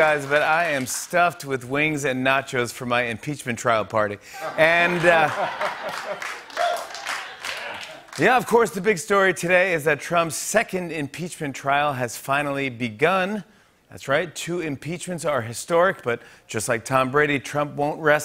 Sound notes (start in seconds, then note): 4.4 laughter, applause